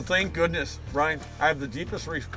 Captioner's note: voiceover